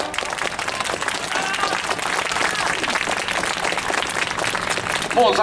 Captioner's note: clapping